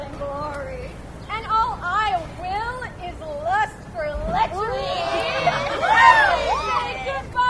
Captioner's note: audience cheers